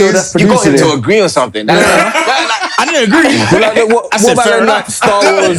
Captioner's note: laughter